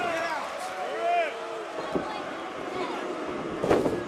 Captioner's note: crowd chatter; crowd cheering